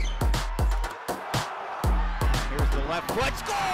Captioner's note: cheering